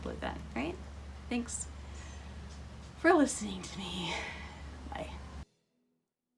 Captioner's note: deep sigh